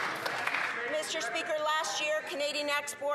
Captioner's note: some Applause